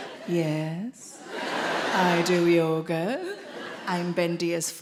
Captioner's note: audience laughing